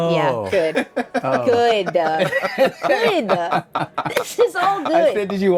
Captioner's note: Don laughs